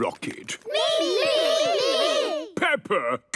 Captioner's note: calling out in turn